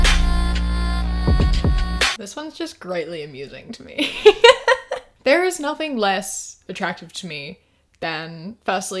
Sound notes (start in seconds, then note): 4.1 laughs